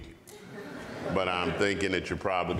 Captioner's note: audience laughs